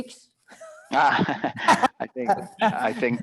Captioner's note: both laughing